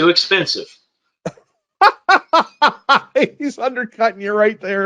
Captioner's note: laughs